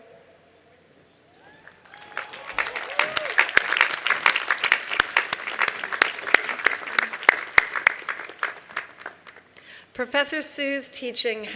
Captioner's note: applause